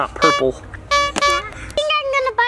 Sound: clown horn

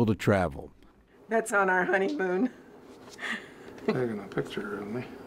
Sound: laughs

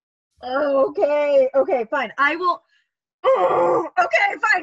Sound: groans

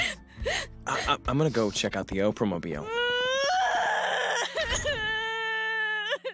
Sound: crying

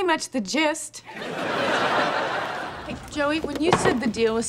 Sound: background laughter

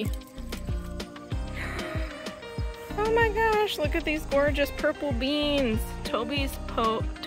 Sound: gasp

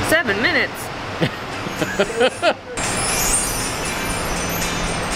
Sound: laughing

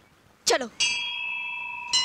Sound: temple bell rings

